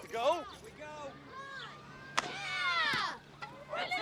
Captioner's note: boys cheering